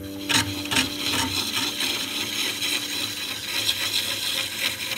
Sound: wood scraping

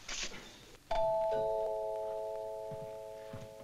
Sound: doorbell rings

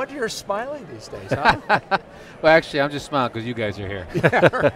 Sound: laughs; laughing

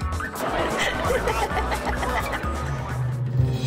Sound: laughs

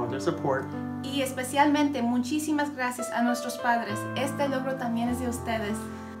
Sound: speaking in foreign language

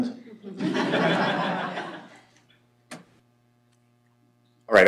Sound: laughter

